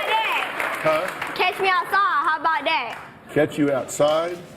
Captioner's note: applause